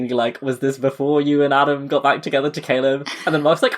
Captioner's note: laughing